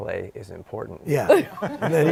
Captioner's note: laughing